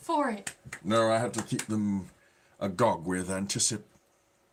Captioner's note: clapping